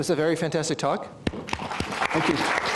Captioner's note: applause